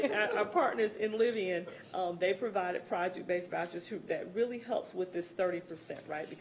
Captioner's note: laughter